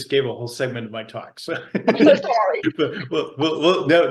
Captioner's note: laughs